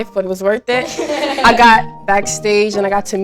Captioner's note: girls laughing